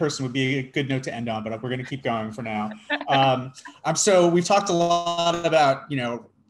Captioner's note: laughs